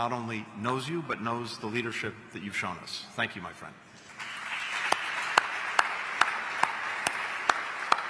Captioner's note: applause